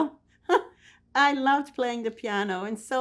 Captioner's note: laughing